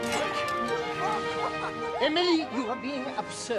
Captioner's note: <i> both laughing</i>